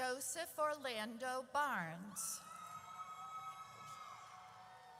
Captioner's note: audience cheers